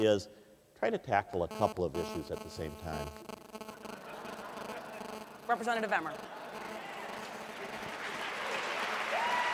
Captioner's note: audience laughs